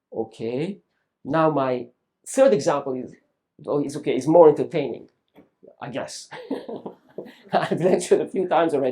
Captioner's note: laughs